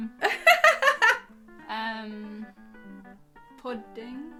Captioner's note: laughing